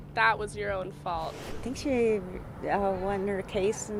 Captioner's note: air whooshing